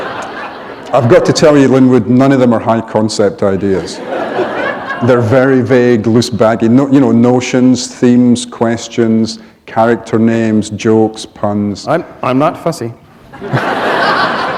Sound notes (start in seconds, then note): 3.6 laughter; 13.3 laughter